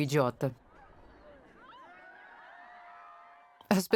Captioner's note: crowd cheering